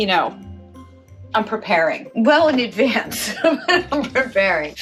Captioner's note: laughs